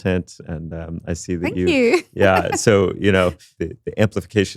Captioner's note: chuckles